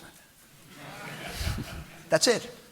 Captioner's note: audience laughing